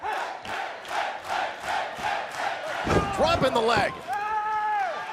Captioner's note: crowd cheering